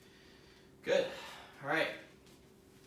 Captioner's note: exhaling